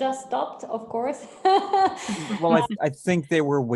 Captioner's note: laughs